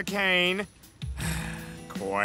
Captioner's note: sigh